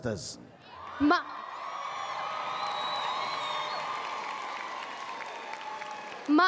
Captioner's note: cheers and Applause